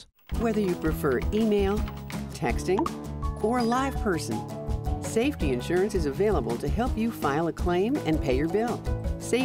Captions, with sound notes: >> Whether you prefer email, texting... (cellphone chirps) (cellphone rings) ...or a live person, Safety Insurance is available to help you file a claim and pay your bill.